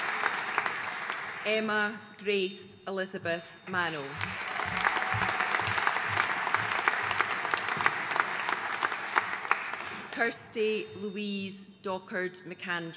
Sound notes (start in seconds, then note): 4.1 audience cheering and applauding